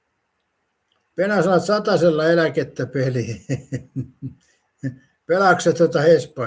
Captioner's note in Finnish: naurua